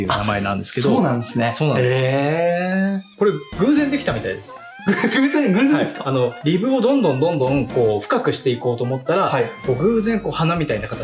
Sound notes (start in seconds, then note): 4.8 laughs